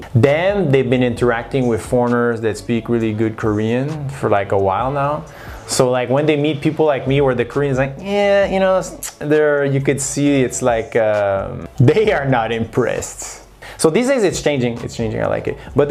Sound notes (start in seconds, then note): 8.3 tsk